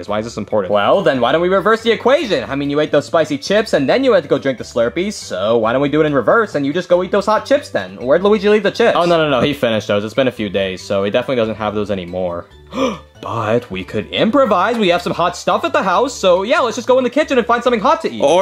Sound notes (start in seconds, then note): 12.6 gasping